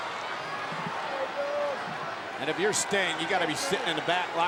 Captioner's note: crowd cheering